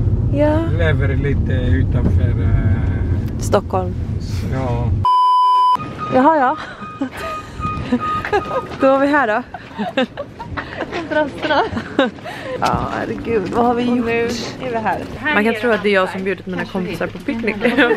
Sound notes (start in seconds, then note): 6.6 laughter